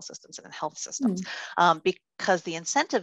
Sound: humming

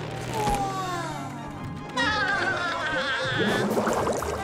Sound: laughing

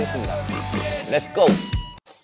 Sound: oink, oink

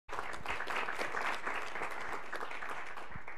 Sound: applause

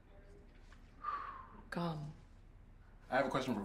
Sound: exhales

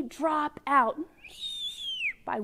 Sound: whistles in downward tones

